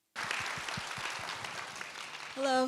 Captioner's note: audience continues to applaud